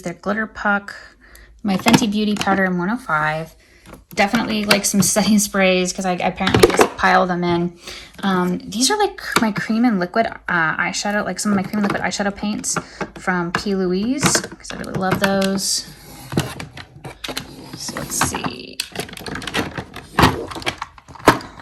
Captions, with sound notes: they're glitter puck, my Fenty Beauty powder in 105. Definitely like some setting sprays 'cause I apparently just pile them in. These are like my cream and and liquid eyeshadow. Like some of my cream and liquid eyeshadow paints from P.Louise 'cause I really love those. (item shuffling) So let's see. (items thudding)